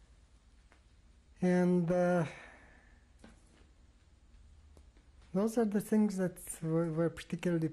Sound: pauses for 3 seconds

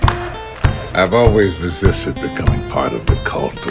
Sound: clapping

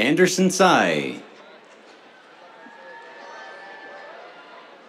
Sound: cheers

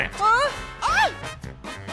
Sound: screams

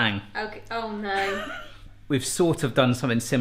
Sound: laughs

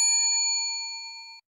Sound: bell dings

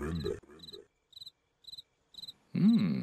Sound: crickets singing

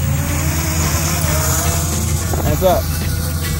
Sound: drone engine

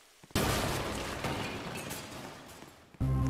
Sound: bewm

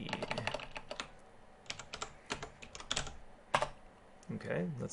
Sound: keyboarding

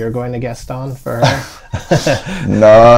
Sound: laughter

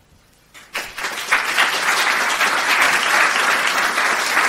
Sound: audience clapping

